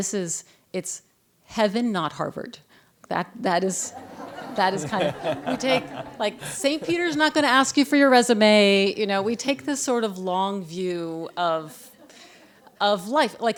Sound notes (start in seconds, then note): 3.8 laughter